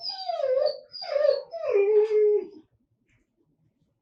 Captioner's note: dog whimpering